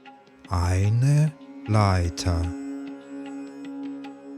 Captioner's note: german